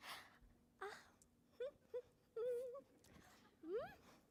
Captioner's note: humming playfully